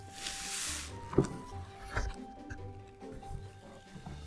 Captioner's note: box opens